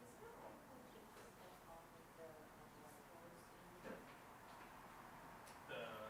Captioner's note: participants continue chattering